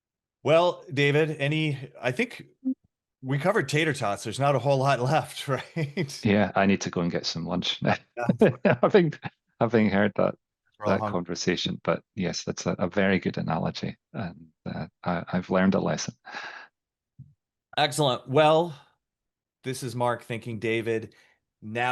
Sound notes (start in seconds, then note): 5.4 chuckles; 7.9 chuckles